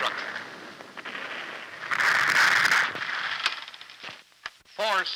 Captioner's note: gunshots and explosions continue